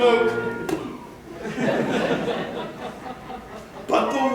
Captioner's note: poof